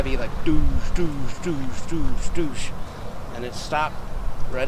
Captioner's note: imitating footsteps thumping